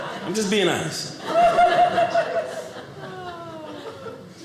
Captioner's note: audience laughing